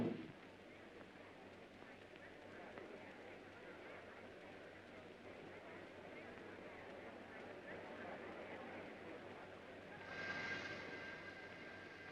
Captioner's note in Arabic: ثرثرة خافتة